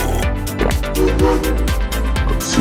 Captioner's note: train whistle